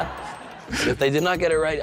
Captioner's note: laughter